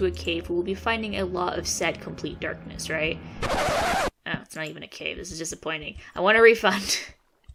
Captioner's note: record stops